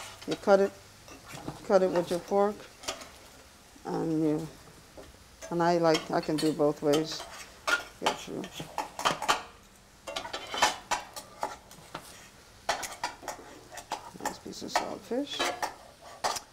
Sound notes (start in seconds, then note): 7.8 spoon clunking against pan